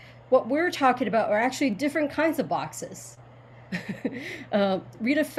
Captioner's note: chuckles